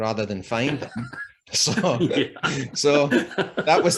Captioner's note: both Laugh